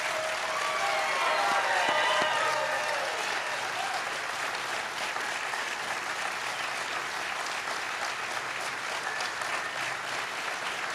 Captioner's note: cheers and applause